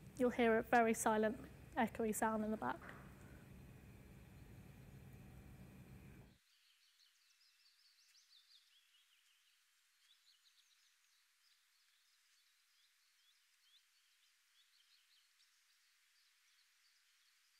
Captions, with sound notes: You'll hear a very silent echoey sound in the back. (birds chirping)